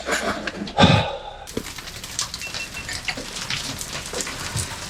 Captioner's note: heavy breathing